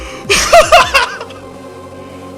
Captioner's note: more insane laughter